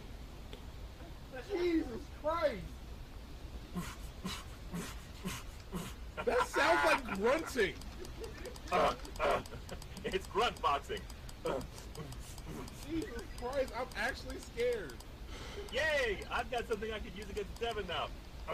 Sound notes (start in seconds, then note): 5.6 same grunting sounds